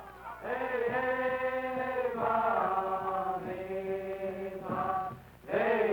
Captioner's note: captives chanting foreign language